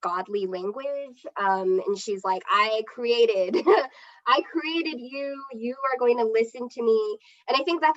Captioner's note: laughs